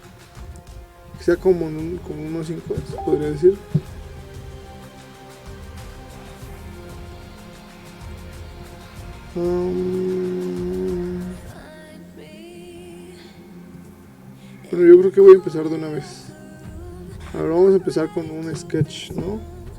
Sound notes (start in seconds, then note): 2.2 Spanish